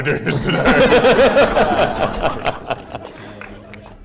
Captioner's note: laughter